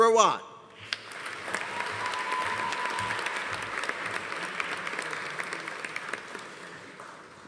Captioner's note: audience applauding; audience cheering